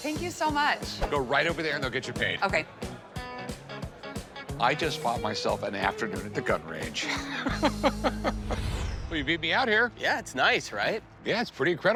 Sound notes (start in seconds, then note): 7.0 chuckling